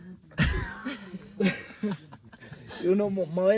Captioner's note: laughs